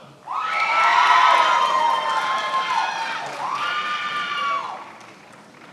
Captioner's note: attendees applauding and cheering